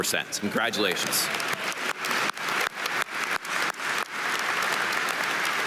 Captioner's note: audience applauding